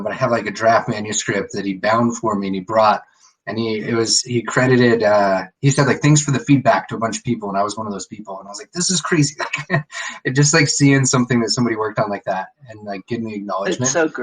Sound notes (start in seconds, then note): 9.2 laughs